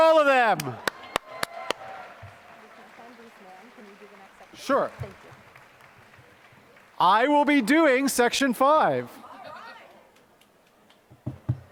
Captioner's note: applause